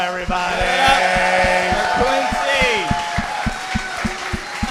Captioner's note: audience cheering